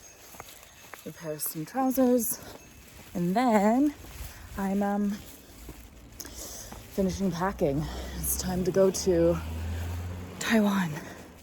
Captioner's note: car passes in the distance